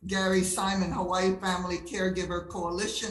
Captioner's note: none